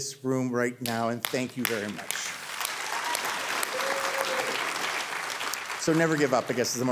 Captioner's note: audience cheering